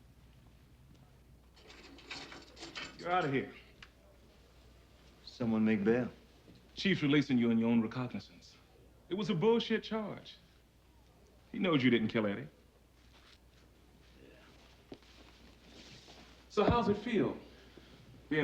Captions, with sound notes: (keys jangling) - You're outta here. - Someone made bail. - Chief's releasing you on your own recognizance. It was a bullshit charge. He knows you didn't kill Eddie. - Yeah. - So how's it feel